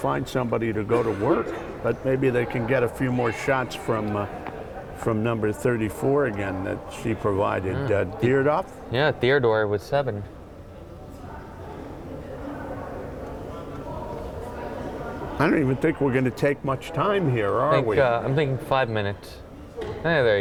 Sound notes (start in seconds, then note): 11.9 crowd chattering